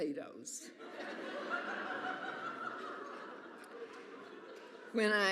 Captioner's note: audience laughs